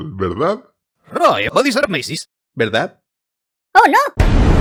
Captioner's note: speaks backwards